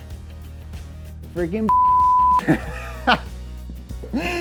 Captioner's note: laughs